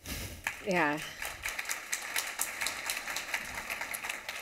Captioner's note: applause